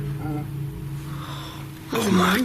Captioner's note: whispers; low groan